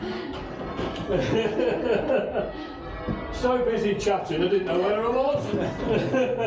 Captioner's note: laughter